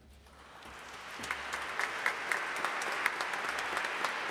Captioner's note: audience applauding